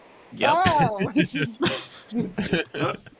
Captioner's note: laughing